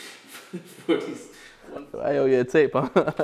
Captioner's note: laughs